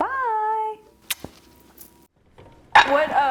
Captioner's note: smooches